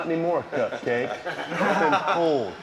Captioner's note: laugh